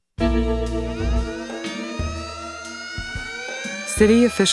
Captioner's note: sirens wailing